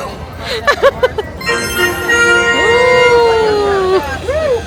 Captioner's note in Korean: 성공을 알리는 마지막 축하소리